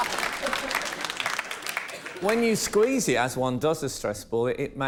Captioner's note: laughter